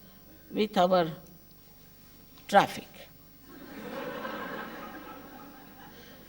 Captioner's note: laughter